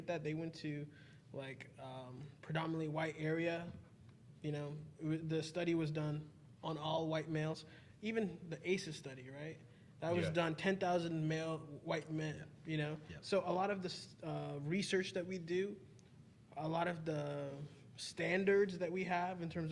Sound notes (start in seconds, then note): none